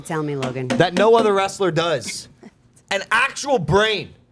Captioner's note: hand patting